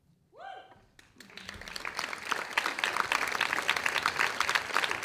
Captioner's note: audience applauding